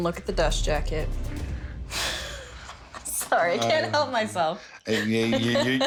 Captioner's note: laughs